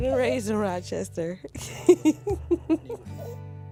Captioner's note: laughing